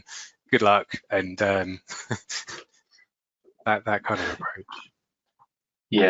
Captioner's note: laughs